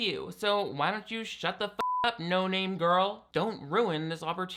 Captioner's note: beep